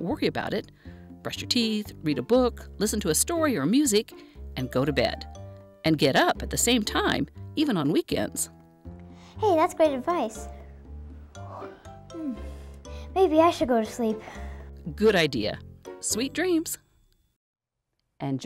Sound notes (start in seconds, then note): 11.5 yawn